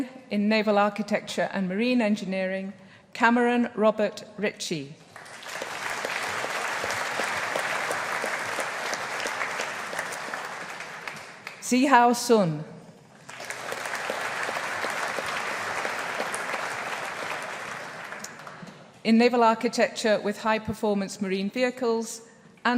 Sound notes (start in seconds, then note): 5.0 audience applauding; 13.2 audience applauding